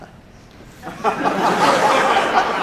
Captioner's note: laughter